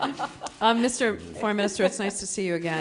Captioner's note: laughter